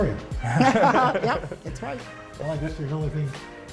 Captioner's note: laughter